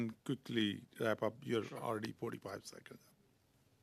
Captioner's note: speaking Alternate Language